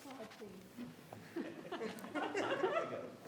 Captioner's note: murmurs; people laughing